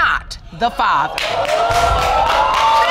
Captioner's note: audience exclaims